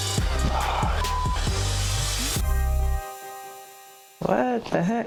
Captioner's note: beep